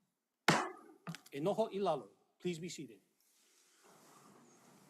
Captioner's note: gavel bangs once